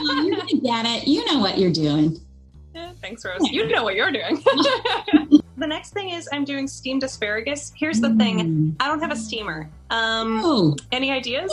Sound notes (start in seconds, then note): 3.4 laughing